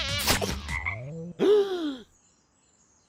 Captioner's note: frog ribbits; gasps